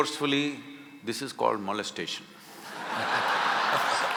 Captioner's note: laughter